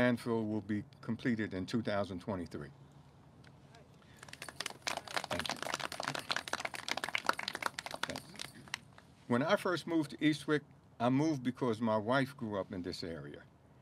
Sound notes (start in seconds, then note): 4.1 clapping